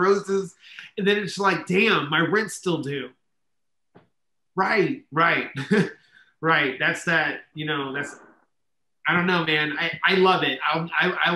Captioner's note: laughs